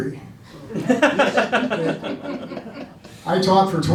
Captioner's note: laughing